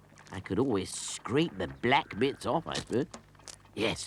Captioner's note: none